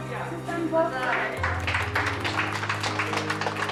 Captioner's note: all applauding and cheering